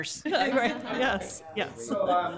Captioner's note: laughter